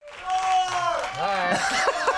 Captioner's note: crowd